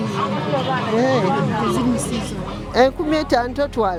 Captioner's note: speaking in Luganda